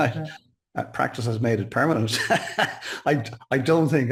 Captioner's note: laughs